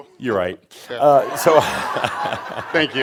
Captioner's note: more laughter